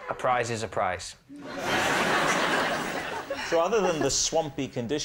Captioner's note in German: gelächter